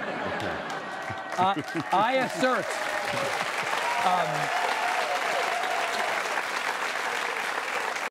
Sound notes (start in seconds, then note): 2.6 applause